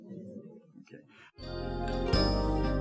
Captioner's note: group voices murmuring; peaceful music